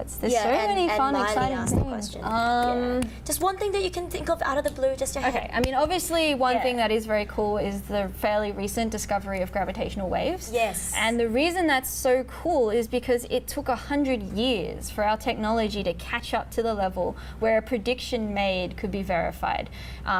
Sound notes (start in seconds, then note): 5.4 clicks fingers, claps hands